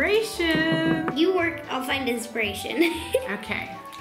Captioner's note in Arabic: يضحك